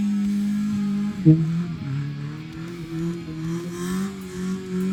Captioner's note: engine revving; speaking foreign language